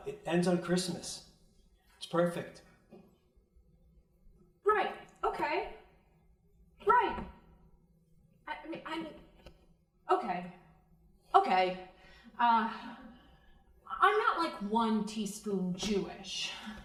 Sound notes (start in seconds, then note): none